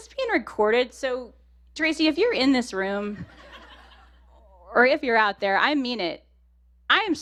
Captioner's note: laughter